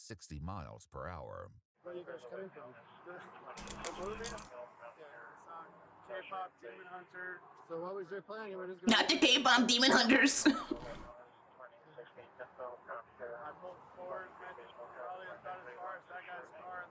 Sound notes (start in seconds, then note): 11.0 laughs